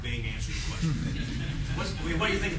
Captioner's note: laughter